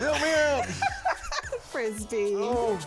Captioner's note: laughs